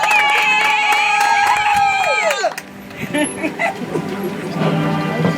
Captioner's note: audience applauds